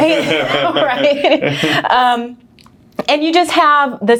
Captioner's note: laughing